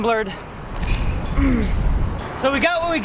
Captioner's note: grunts